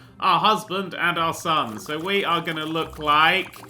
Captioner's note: none